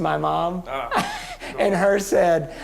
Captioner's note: laughs